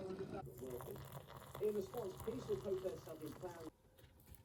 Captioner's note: kettle boiling and TV news station in the background; boiling water pouring and TV in the background